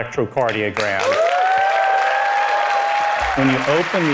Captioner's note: crowd applauses